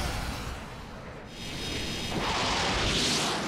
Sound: whirring

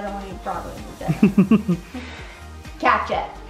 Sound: chuckles

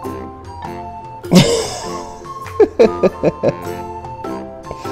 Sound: laughs

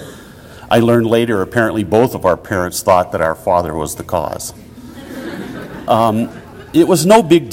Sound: audience laughter

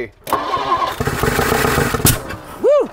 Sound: engine revving

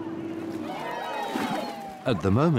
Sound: people cheer

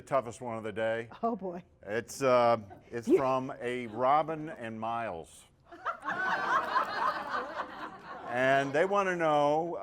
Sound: laughter

